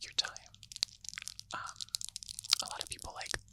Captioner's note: nails clacking